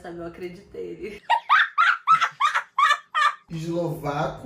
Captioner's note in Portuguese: Risos